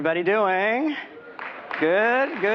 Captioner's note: applause